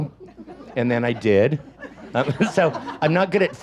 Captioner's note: audience laughs